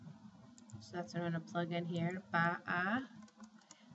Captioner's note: speaking spanish